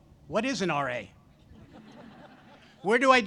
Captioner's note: audience laughs